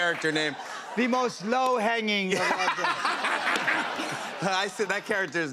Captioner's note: laughter